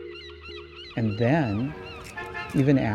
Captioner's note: seagulls cawing; car horns honking